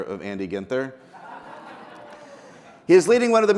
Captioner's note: people laughing